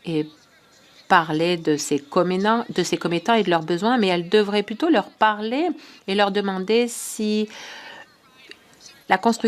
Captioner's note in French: voix de l'interprète